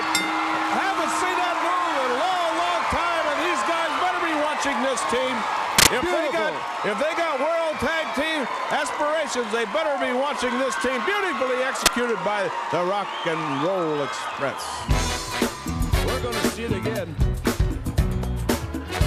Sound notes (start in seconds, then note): 5.1 crowd cheering